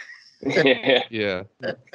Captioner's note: laughter